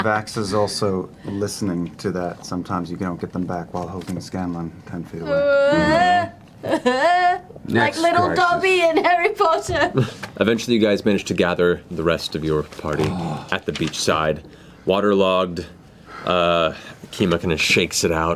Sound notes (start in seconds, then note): 5.2 wailing